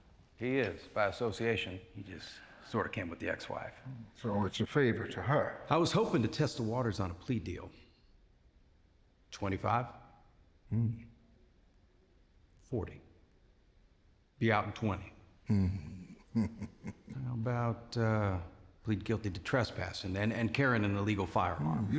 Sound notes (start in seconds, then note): 15.5 chuckling